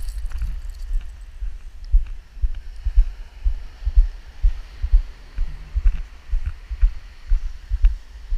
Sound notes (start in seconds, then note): 3.0 waves crashing